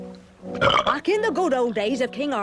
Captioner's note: belches